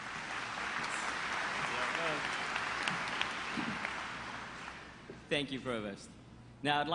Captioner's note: applause